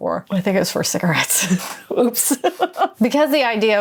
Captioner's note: laughing